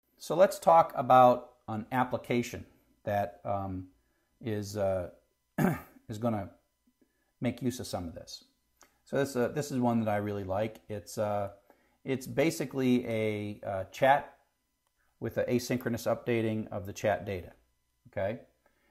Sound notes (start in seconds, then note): 5.5 cough